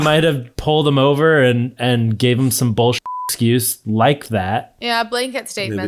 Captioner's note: beep